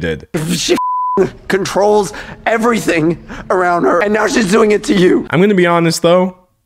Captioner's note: beep